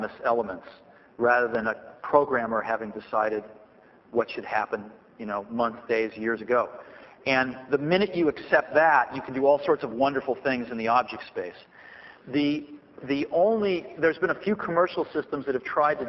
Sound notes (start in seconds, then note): none